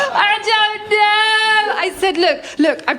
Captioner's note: laughter; crying